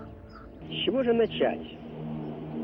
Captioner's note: Khrushchev speaking Russian